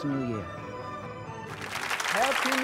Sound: audience applauding

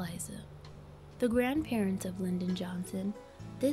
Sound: none

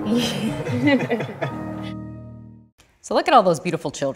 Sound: adults laughing

